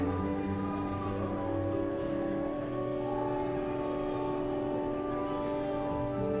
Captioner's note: elegant music continues; guests continue chattering